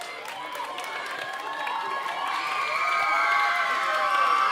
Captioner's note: audience cheering